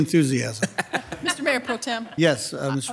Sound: softly chuckles

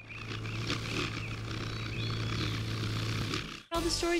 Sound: bird song; wings flutter

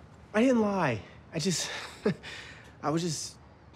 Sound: chuckles

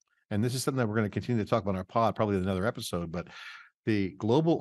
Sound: none

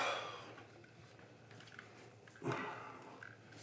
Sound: sighing

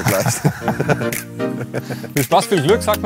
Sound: Beide lachen

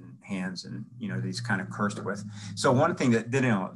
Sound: murmurs

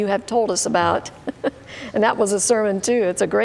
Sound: chuckling

